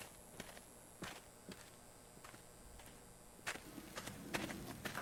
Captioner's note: electrical buzzing